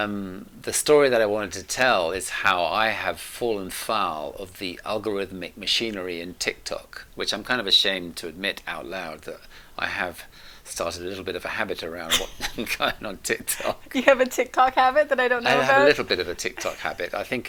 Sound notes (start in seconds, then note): 12.9 chuckles on words